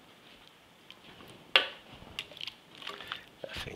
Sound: tongs clinking

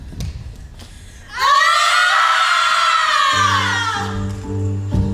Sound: screaming; gentle electronic music

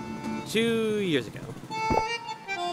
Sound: glugs

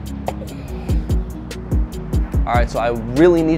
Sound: exhales

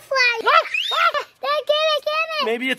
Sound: screaming

